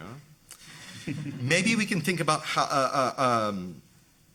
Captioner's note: audience laughing